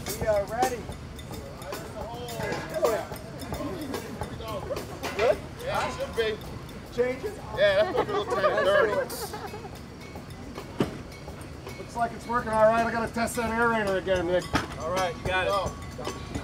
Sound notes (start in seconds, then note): 0.0 slow music continues; 8.6 overlapping chattering